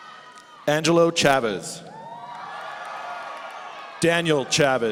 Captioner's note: audience cheering